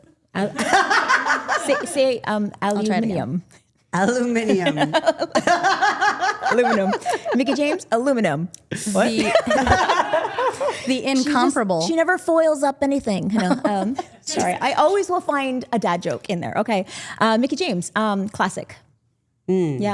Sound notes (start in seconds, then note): 0.4 group laughing; 4.3 group laughing